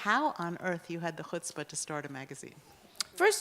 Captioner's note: Hebrew